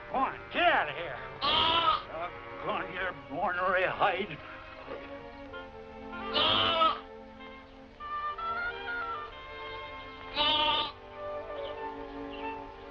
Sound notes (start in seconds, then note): 6.1 bleating